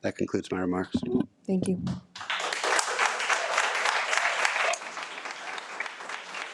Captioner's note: audience applauding